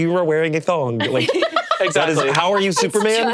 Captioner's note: laughs